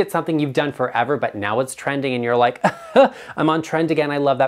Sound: chuckles

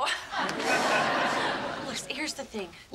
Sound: audience laughing

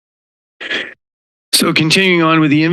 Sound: inhales

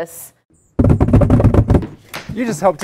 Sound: cardboard pounding

